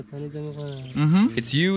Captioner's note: Mursi spoken